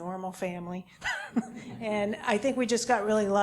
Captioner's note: laugh